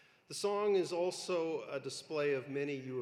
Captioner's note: none